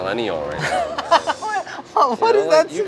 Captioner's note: laughs